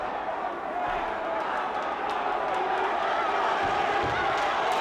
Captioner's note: crowd boos